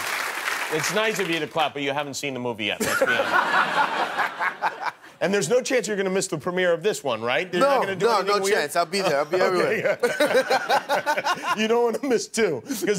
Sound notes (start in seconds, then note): 0.0 applause; 2.8 laughter; 9.6 laughter